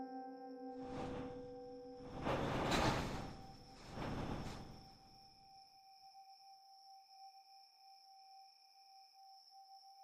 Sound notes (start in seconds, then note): 2.0 door rumbling; 4.3 gentle tense music